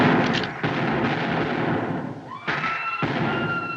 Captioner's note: gunshots; women Screaming; gunfire Stops